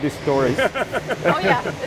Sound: laughing

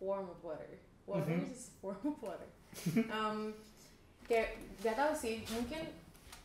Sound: laughter

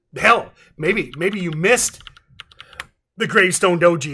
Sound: keyboard clacking

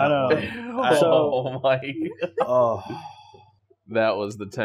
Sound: generalized kerfuffle

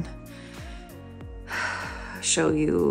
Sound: big sigh

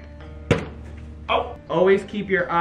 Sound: thuds

